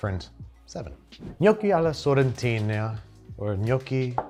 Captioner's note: air whooshes